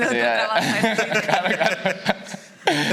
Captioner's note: laughs